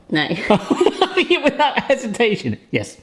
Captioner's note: they laugh